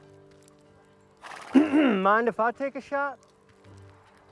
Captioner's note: clears throat